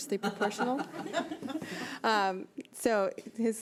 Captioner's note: board members laughing